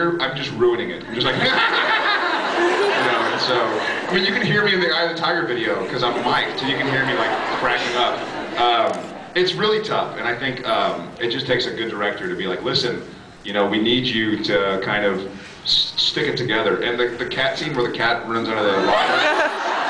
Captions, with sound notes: I’m just ruining it. I’m just like... [silly laugh]. [laughs] You know, and so... I mean, you can hear me in the Eye of the Tiger video ‘cause I’m miked. So you can hear me, like, cracking up. It’s really tough, and I think... it just takes a good director to be like, “Listen, you know,” “We need you to kind of...” “stick it together.” And the cat scene, where the cat runs out of the locker,